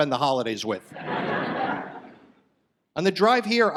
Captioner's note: audience laughs